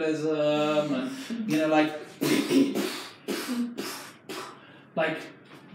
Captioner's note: imitates explosions